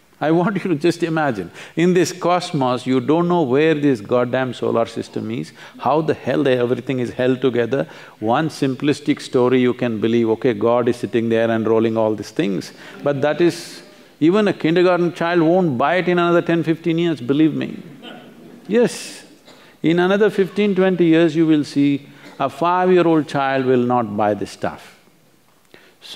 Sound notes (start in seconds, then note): 18.1 few laugh